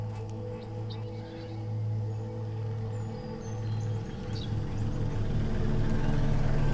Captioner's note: dramatic music; helicopter chopping